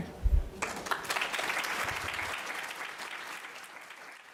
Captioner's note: audience applauds